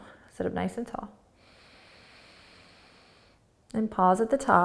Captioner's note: inhaling